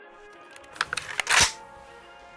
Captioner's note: gun cocks